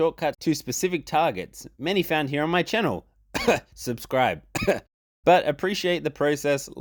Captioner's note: cough